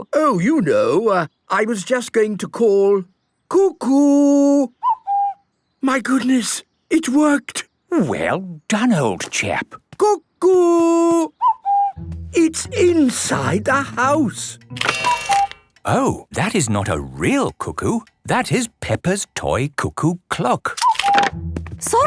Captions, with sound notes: - Oh, you know... I was just going to call, "Cuckoo!" - (distant cuckoo) - My goodness! It worked! - Well done, old chap! - Cuckoo! - (distant cuckoo) - It's inside the house! - (cuckoo clock) Cuckoo! - Oh! That is not a cuckoo! That is Peppa's toy cuckoo clock! - Cuckoo!